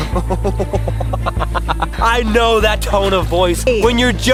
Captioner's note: laughing